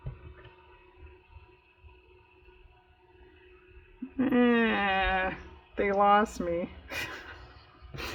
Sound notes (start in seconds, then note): 6.5 laughs